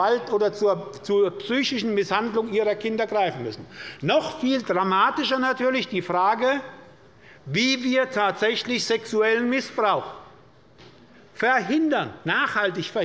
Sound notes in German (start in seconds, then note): none